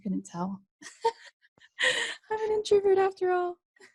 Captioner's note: laughs